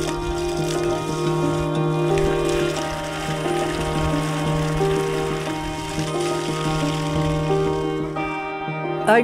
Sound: water splashing

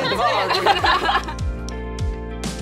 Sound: laughs; upbeat music

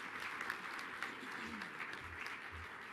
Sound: applause

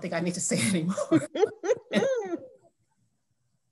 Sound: laughter

